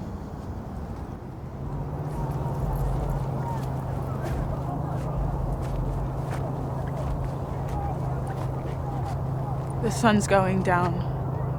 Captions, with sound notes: (people chattering faintly) - The sun's going down.